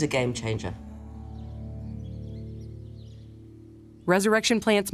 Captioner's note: birds chirping